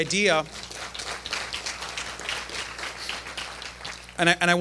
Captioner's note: applause